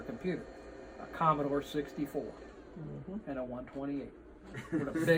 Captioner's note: laughs